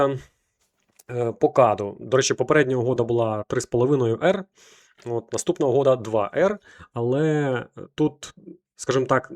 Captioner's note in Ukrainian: сопіння